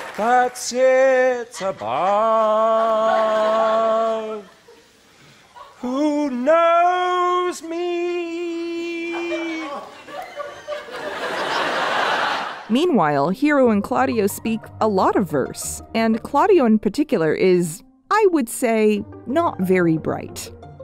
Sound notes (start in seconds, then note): 8.8 audience laughs